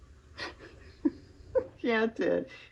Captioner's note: laughs